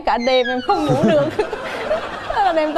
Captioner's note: laughing